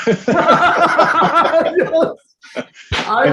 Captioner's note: laughing